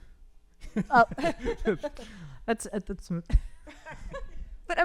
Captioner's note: all chuckling